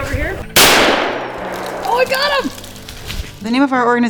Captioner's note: loud rifle shot